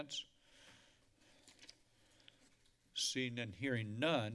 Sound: silence

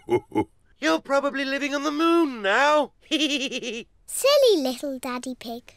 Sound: laughs; chuckles

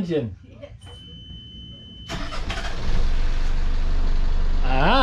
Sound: engine starting

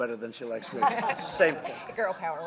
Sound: laughter

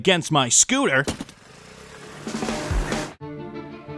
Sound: scooter engine roaring; upbeat tense music begins

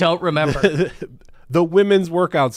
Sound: laughs

